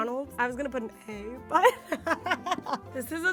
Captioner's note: laughs